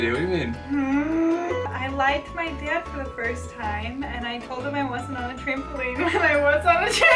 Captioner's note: stifling laughter